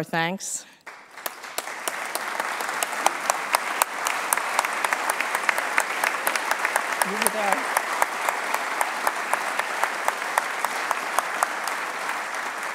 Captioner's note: applause